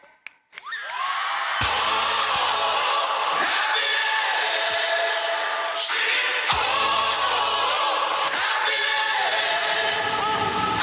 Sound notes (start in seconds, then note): 0.8 crowd cheering; 1.6 upbeat music